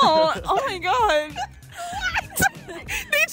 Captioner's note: laughing